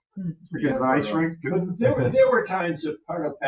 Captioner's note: speaking distantly